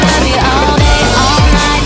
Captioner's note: smack!